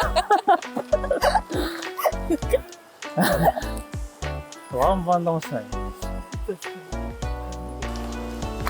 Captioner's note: laughs